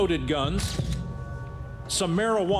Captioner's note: camera flashes